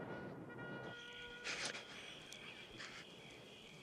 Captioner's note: shuddering